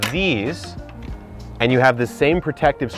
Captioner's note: latch clinking